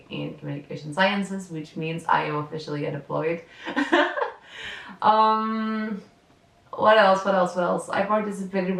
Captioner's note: laughs